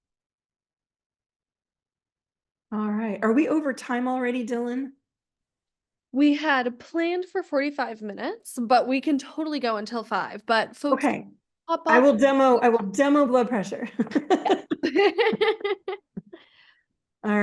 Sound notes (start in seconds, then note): 14.0 laughs; 14.1 laughing